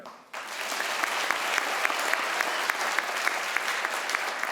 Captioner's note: crowd applauds